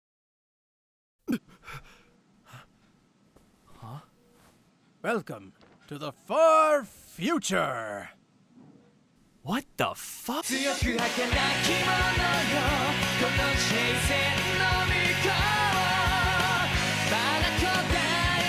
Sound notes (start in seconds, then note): 1.3 gasp